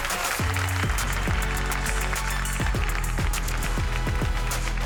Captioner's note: cheering, applause